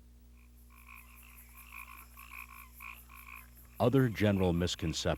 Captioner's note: crickets and tree frogs chirping